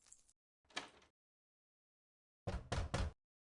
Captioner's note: knocking continues